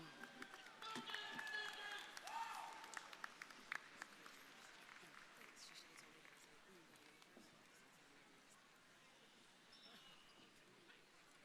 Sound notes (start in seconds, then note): 0.0 crowd cheering; 0.0 crowd applauding